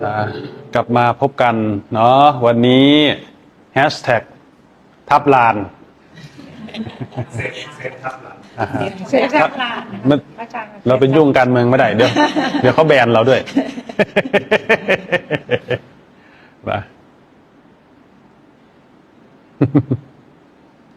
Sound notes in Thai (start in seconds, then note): 13.4 เสียงหัวเราะ